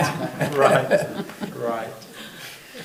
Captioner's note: everybody laughing